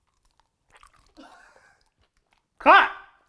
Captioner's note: laughing